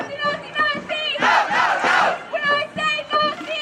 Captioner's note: crowd